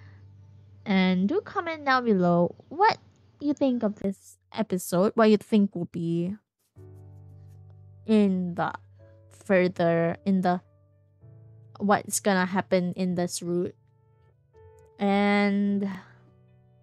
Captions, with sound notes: And do comment down below what you think of this episode *fumbles through words* And